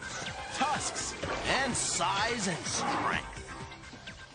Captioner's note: growls